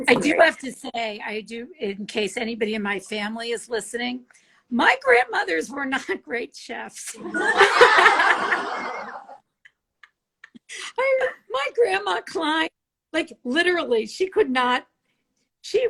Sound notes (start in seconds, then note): 7.2 all laugh